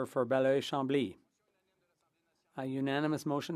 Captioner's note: speaking French